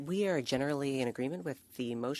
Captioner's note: speaking French